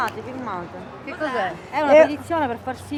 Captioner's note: woman #2, in italian; woman #1, in italian